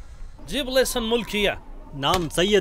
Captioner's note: Speaking in Arabic